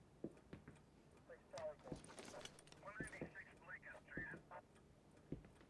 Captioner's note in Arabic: ثرثرة من راديو الشرطة